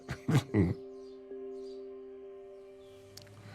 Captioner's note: laughs